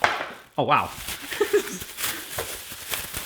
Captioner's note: laughs